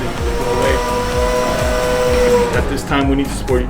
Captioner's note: engine roaring